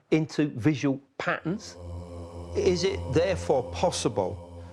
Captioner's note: voices chanting